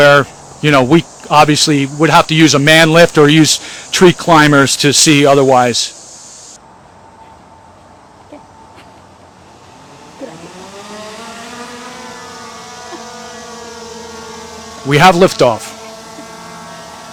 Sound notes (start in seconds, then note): 9.4 drone motor whirring